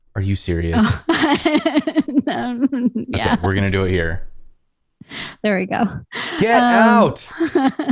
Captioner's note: laughter; laughter